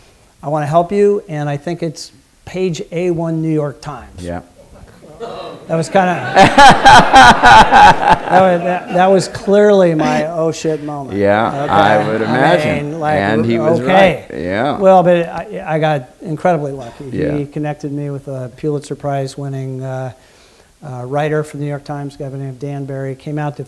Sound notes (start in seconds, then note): 5.8 laughter